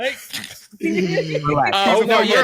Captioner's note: laughter